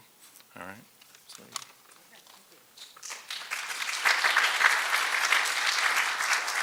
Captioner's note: applause